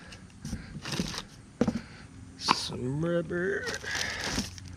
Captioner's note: rubber and plastic rustling